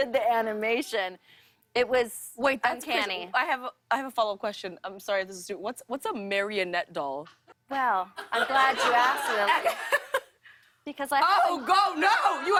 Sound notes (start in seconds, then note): 8.2 laughs